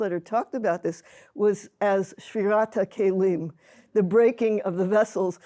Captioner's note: hebrew